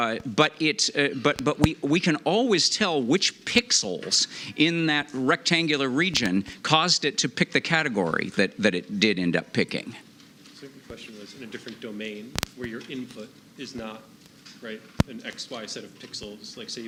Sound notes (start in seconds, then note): none